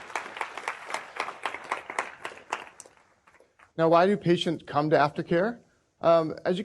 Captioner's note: applause